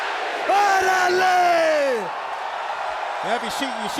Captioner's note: crowd cheering